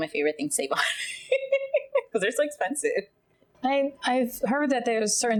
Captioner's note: laughing